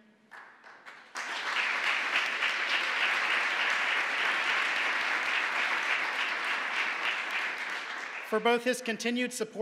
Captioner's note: applause